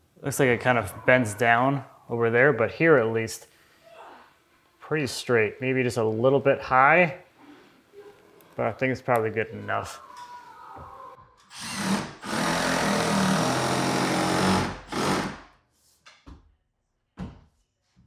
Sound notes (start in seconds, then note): 11.5 drill whirring